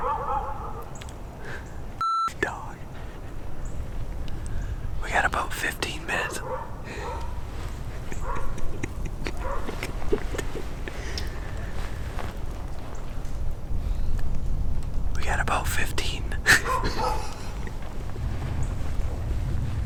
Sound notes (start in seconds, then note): 0.0 dogs barking; 2.8 chuckles; 6.1 dogs barking; 7.3 laughing; 15.6 laughs; 16.4 dogs barking